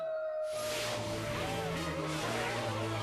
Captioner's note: cheering; wirewolf screams